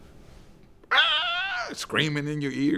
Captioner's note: imitates screaming